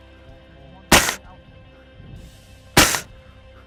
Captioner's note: gunshot; gunshot